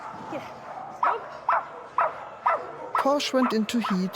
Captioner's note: Posh barking